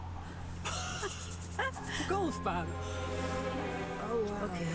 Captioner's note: laughter